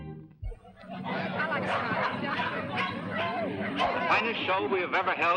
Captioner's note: dogs barking; crowd chattering